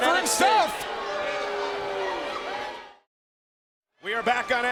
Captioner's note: crowd booing